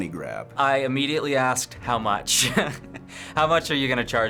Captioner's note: chuckles